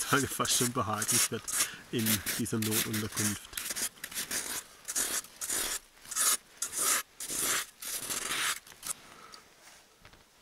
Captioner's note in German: scratching